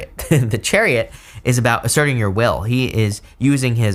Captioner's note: chuckles